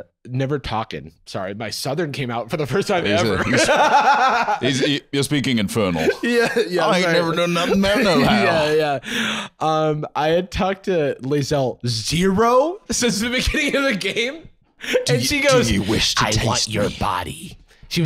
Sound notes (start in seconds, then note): 3.0 laughing